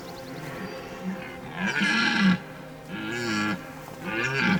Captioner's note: stag roars